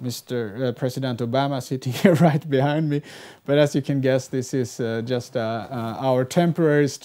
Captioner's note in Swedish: fniss